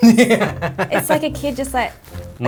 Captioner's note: laughs